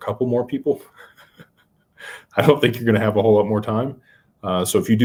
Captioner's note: laughter